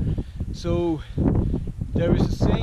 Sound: wind whipping

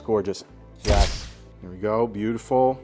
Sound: camera shuttering

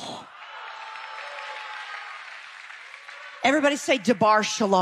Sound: audience applause

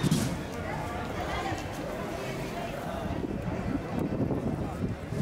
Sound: sounds of streets, voices, wind

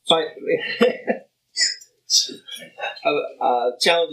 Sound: laughs

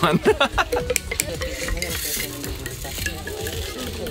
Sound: laughs

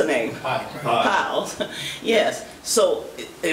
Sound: crowd

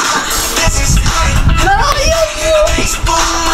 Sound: cries

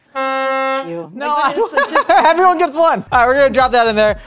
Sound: laughs

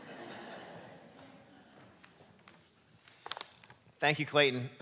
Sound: audience laughing

